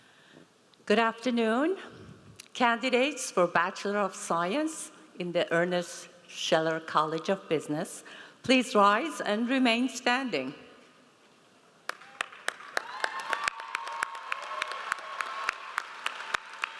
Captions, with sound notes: - Good afternoon. Candidates for bachelor of science in the Ernest Scheller College of Business, please rise and remain standing. (audience applauds)